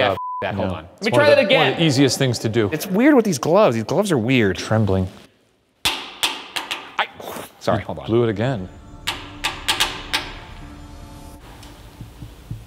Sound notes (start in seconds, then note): 0.1 beep; 5.8 knocking; 9.0 knocking